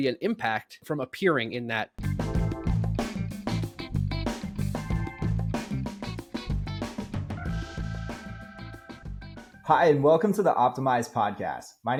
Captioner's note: speaking